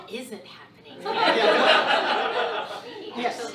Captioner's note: audience laughs